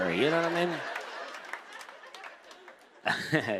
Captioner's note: laughter; laughs